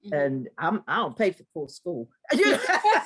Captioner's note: laugh